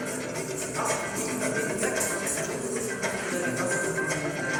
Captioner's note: coins jingling